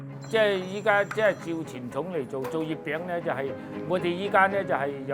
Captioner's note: speaking Cantonese